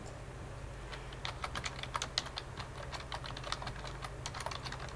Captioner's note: keyboard clacking